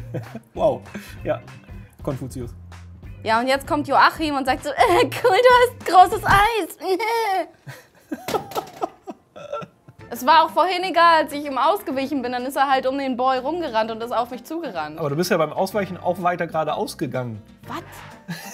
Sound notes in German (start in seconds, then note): 8.2 Sie lässt den Controller fallen, lacht